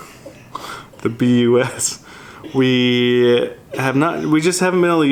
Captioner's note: laughter